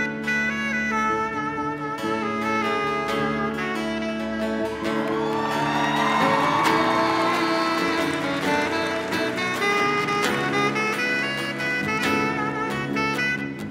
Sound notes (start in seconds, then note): 4.5 cheering and applause